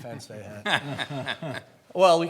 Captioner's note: laughs